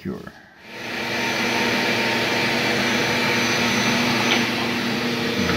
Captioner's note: mechanical ambience